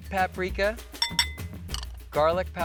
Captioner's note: glass bowl clanking